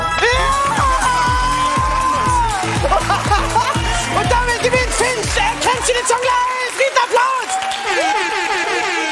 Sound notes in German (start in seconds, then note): 2.8 Gelächter